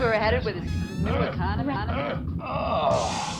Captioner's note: moaning